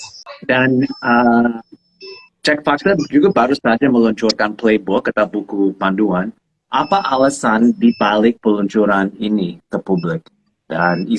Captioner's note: non-english speech